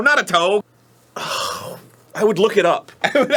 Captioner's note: scoff/sighs